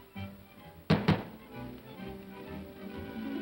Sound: knocking on door; upbeat music

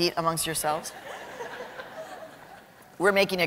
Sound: laughter

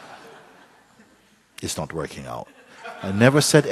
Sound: laughter

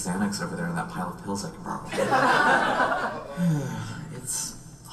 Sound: audience laughs

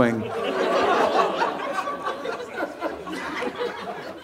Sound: audience laughing

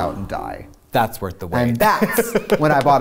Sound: laughs

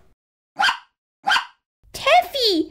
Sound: bark! Bark!

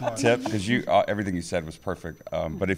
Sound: laughter

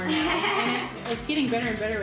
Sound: laughing

